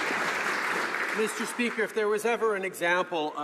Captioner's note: some Applause